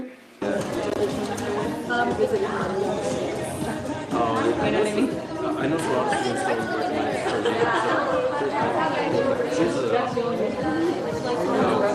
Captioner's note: chatter